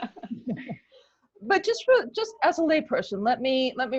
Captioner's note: laughter